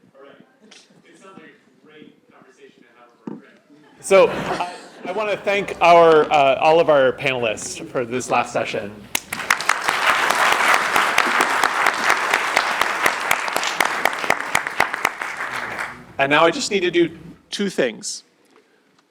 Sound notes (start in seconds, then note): 4.1 laughter; 9.1 applause